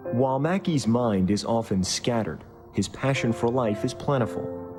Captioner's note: voiceover